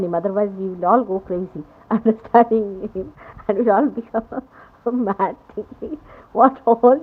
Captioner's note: laughing